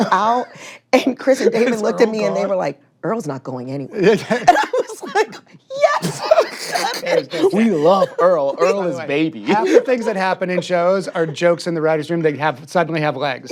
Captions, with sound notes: -And Chris and Damon looked at me... -"Is Earl gone?" ...and they were like, "Earl's not going anywhere." -(CHUCKLES) -And I was like, "Yes!" (LAUGHS) We love Earl, Earl is baby. Half the things that happen in shows are jokes in the writer's room that have-- -suddenly have legs. -Yeah.